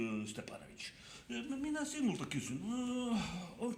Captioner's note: speaks Finnish with Russian Accent